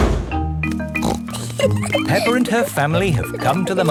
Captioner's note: snorts and giggles